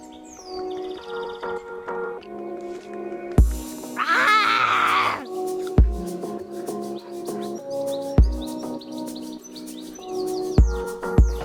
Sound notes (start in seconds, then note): 4.0 roaring